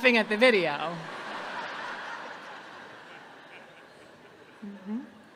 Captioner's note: audience laughing